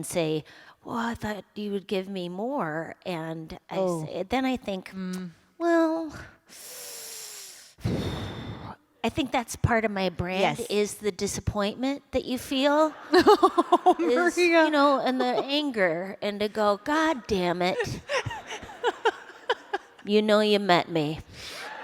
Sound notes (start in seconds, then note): 6.4 deep inhale & exhale; 12.8 laughter